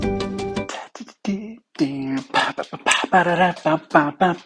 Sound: beatboxing

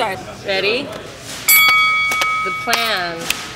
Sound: bell dings; rhythmic clapping

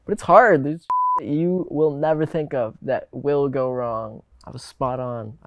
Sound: beep

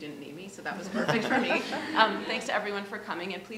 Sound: all laughing

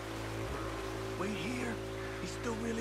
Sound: none

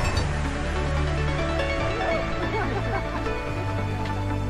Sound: runners chattering

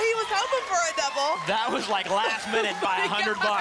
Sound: applause and cheering

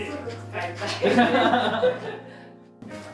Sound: laughs

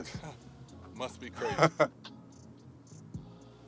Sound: chuckles

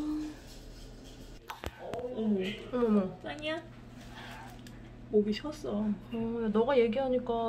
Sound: meow

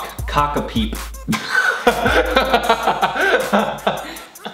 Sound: laughing

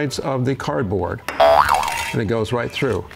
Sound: boing

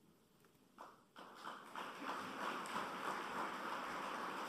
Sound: applause

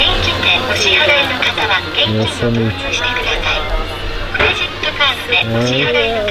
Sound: register speaking foreign language

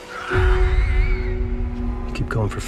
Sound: zombie screeching

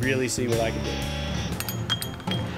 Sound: clinking glasses

